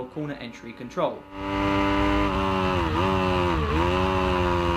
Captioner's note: bike engine roaring